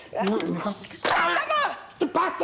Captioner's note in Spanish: Grita